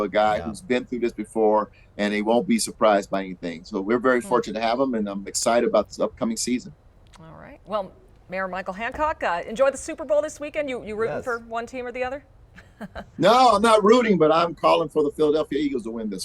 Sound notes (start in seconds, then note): 12.5 chuckling